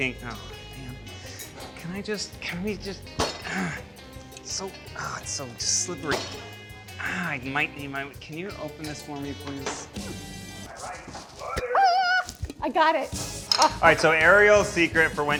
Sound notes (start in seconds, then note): 3.9 groans